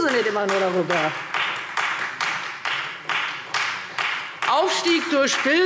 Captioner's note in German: Beifall Freie Demokraten